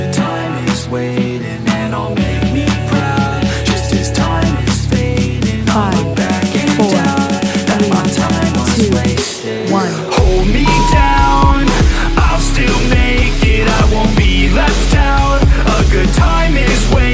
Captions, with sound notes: Five, four, three, two, one. (beep) (upbeat music)